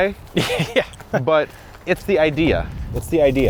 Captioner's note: chuckling